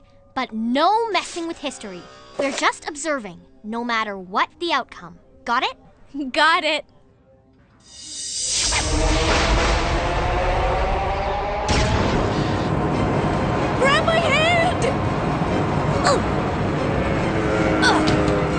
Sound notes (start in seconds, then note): 8.5 swirling, thunder